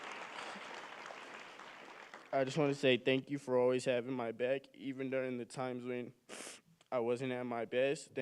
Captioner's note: cheering and applause